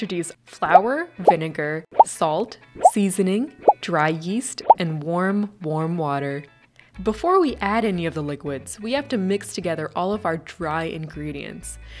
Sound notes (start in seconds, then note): 0.3 plop; 2.8 plop; 4.6 plop